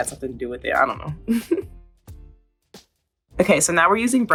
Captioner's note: Coco chuckling